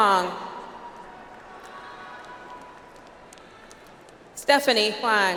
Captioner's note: audience applauds